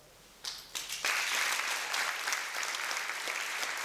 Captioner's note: applause